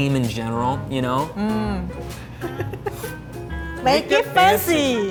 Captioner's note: laughs